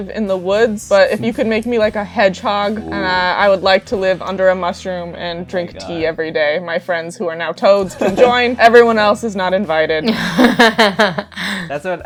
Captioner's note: laughter